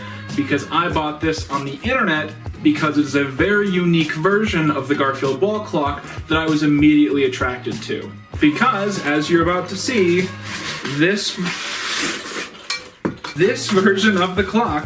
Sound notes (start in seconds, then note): 12.3 tink